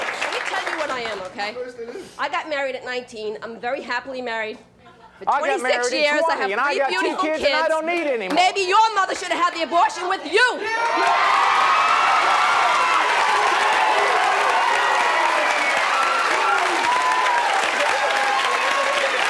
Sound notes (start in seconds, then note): 10.6 audience cheering